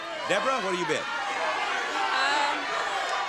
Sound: audience yelling

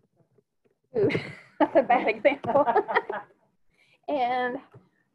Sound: laughing

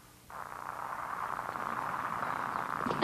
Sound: static, looking for radio frequency

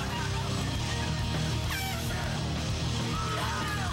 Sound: horn toots

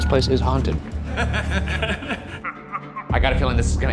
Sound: giggling

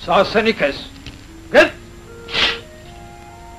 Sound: speaks in Turkish

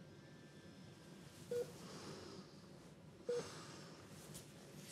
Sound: sighs; beeping continues

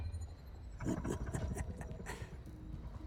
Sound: laughs

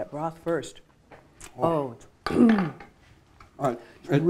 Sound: clears throat

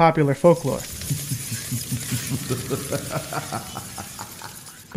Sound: A vampire laughs

